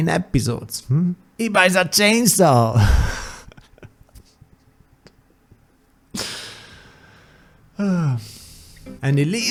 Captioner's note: laughs then sighs